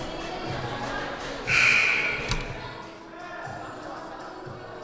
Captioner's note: buzzer sounding